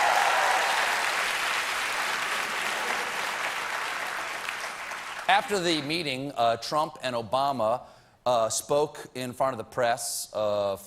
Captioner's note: cheers and applause